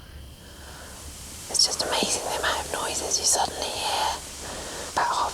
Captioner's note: whispering